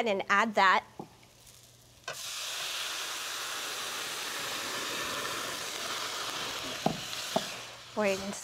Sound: sizzles

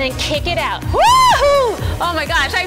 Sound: screaming

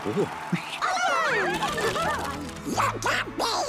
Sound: all exclaiming

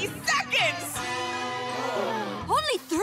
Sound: all gasping

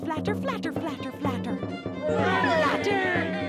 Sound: crowd cheers

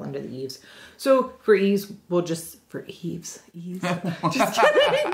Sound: both laugh

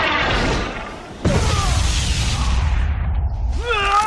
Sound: screams

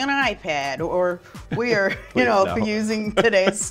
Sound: laughs

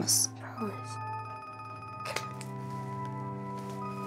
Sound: phone ringing

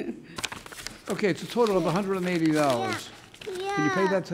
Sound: child making noise

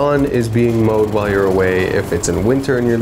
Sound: lawn mower revving

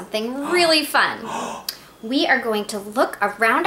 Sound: Herbie gasps

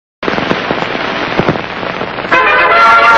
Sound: analog TV static; old-fashioned music playing

